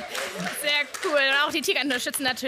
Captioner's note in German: Applaus